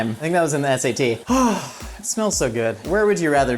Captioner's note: sighing